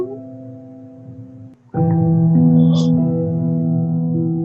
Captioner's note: crying